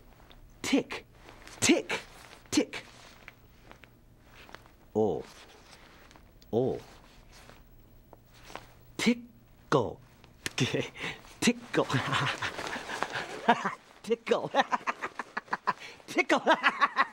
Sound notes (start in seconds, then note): 4.4 makes "l" sound; 6.1 repeats "l" sound; 10.0 laughing; 14.4 laughing harder